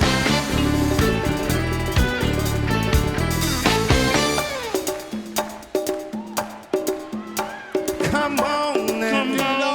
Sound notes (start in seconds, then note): 6.9 applause and cheering